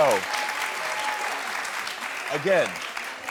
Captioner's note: audience cheering